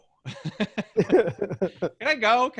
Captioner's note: laughs